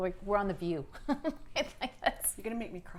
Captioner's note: laughs